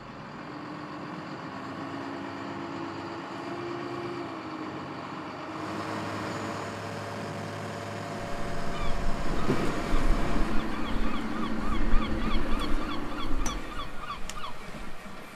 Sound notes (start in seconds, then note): 0.6 boat motor purrs; 10.2 seagulls call